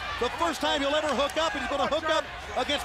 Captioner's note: crowd cheering